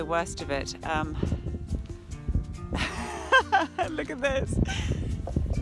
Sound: laughs

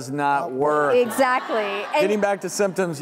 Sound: audience laughs

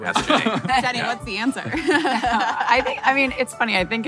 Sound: laughing

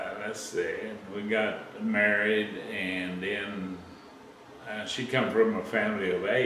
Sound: laughs

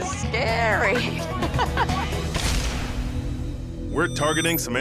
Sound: laughing

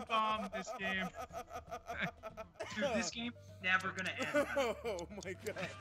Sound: laugh

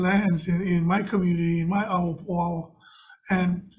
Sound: speaks foreign language

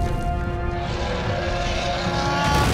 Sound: roaring

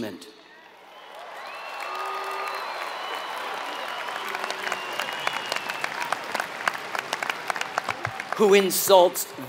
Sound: applause

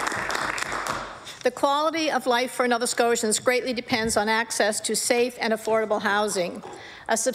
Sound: applause

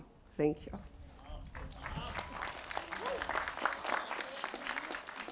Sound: applause

